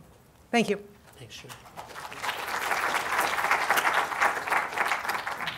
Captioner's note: audience applauds